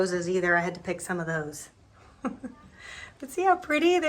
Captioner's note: giggles